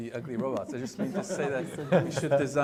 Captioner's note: attendees laughing